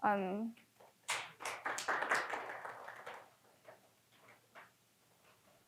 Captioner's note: audience applauding